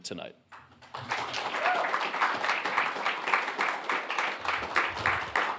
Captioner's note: audience applauding